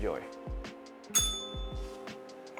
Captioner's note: bell rings